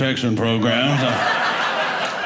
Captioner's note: audience laughing